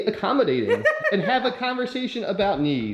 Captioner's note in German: lacht